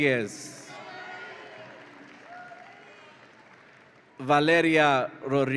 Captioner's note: audience applauds and cheers